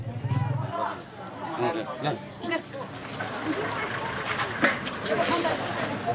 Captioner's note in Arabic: الناس يتحدثون بشكل غير واضح